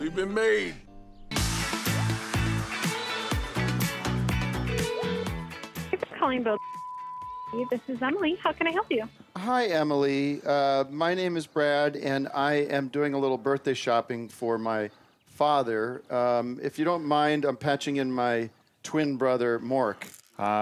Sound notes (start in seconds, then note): 1.3 upbeat music; 6.0 phone ringing; 6.0 beeping